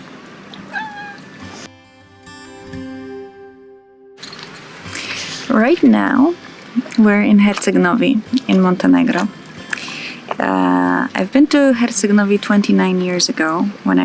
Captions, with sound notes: (cat meows) Right now, we're in Herceg Novi, in Montenegro. Uh, I've been to Herceg Novi 29 years ago